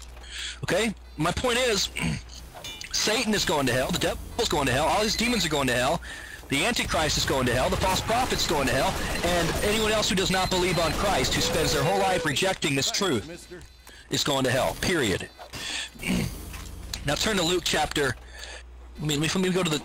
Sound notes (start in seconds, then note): 15.9 clears throat